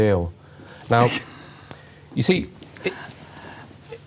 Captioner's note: laughing